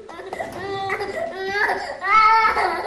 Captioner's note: baby crying